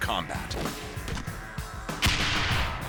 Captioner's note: gunfire